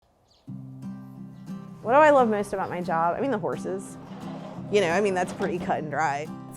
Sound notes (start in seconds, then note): 0.1 birds chirping; 0.5 guitar strumming